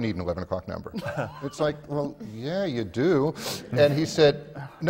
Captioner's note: laughter from the panel